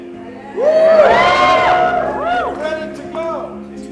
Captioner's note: crowd cheering